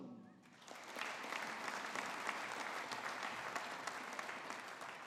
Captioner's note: audience applauding